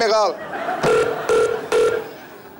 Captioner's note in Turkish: Telefon kapanır